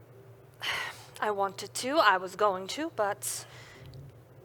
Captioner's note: sighs